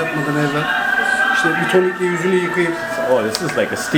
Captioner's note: Turkish language